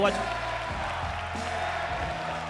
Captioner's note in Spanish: Aplausos